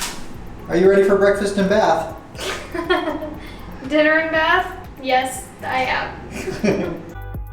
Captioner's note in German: Gelächter